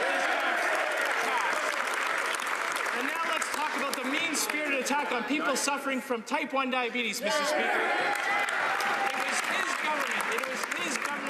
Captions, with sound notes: MEAN-SPIRITED ATTACK ON WAITRESSES AND RETAIL WORKERS -- [ Some Applause ] NOW LET'S TALK ABOUT THE MEAN-SPIRITED ATTACK ON PEOPLE SUFFERING FROM TYPE 1 DIABETES,